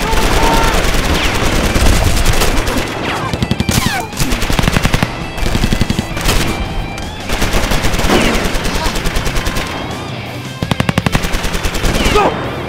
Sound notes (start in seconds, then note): 6.9 guns firing; 6.9 intense rock music